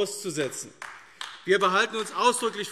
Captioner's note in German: Beifall AfD